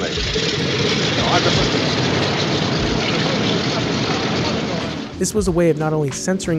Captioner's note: loud plane propellers